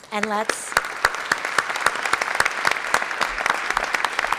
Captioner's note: audience applauds